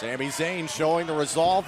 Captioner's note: fans chanting